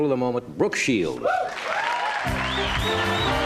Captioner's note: cheers and applause